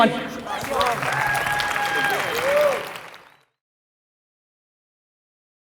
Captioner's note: audience applauding and cheering